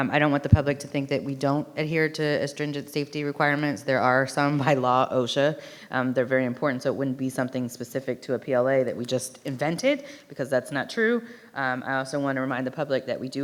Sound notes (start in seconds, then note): none